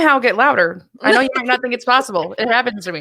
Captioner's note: laughs